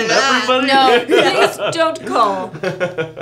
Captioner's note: laughing; Nathan laughs